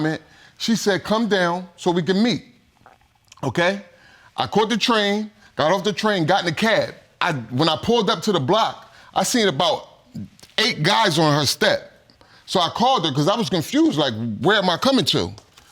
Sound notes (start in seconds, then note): none